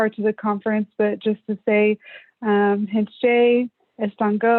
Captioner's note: non-english speech